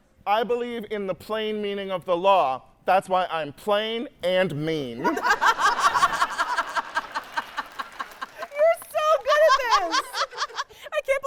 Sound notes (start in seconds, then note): 5.0 host and audience laughing